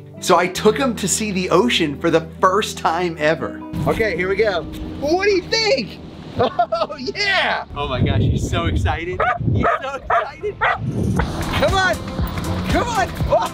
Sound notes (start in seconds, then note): 9.2 Winston barks